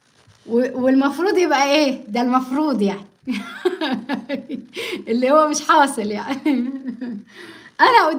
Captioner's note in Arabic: ضحك